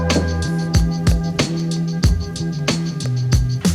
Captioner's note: gentle electronic music continues; table thuds